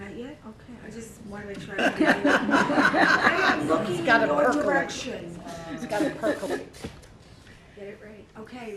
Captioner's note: laughing